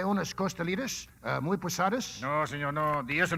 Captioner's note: speaking Spanish; speaking Spanish